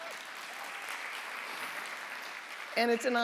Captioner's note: audience applauds